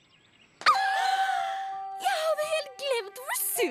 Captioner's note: gasp